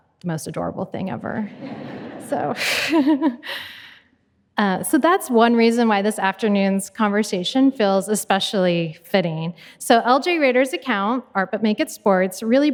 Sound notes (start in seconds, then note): 1.5 audience laughing; 4.2 laughs